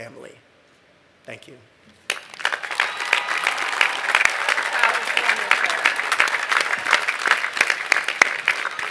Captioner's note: applause